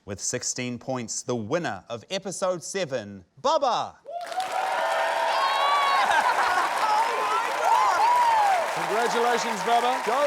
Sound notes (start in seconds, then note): 4.1 cheering, applause